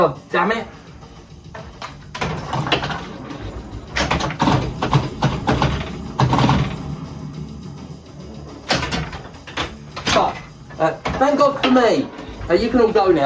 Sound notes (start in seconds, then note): 2.1 pinball noises